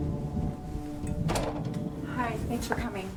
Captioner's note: door clatters